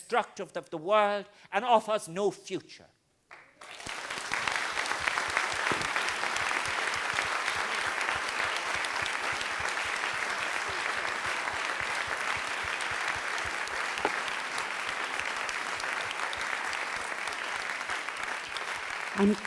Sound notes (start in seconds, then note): 3.8 crowd Clapping